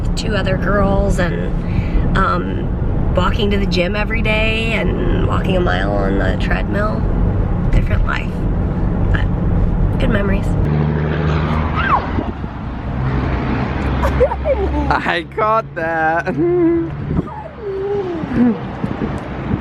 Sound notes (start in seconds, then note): 13.9 laughing; 16.2 chuckles